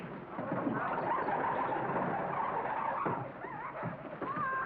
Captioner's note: table screeches